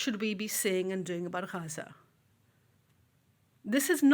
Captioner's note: speaks foreign language